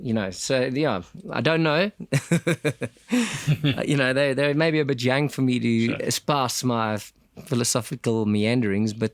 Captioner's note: laugh